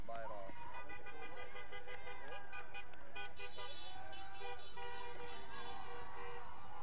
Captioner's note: people cheering; vehicles honking